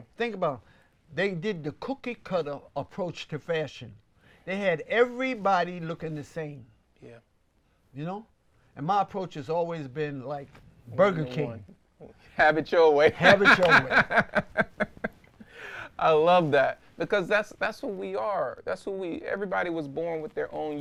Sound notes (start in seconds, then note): 13.1 laughs